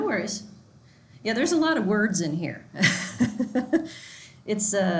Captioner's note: laughs